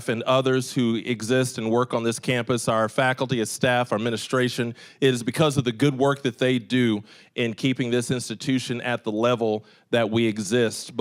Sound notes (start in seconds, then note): none